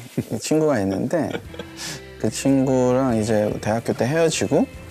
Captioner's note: haha